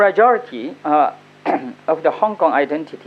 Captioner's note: coughs